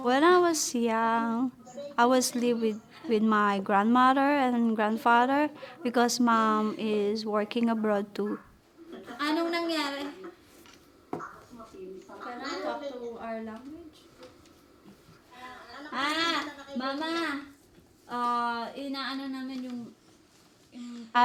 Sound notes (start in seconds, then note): 8.8 speaks Filipino; 15.8 speaks Filipino